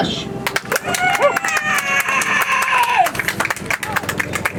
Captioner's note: audience applauds